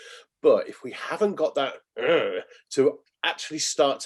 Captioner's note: growls